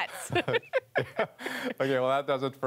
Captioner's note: laughter